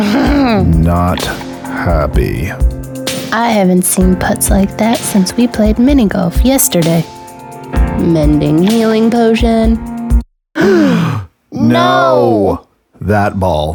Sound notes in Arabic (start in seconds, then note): 10.6 شهقة!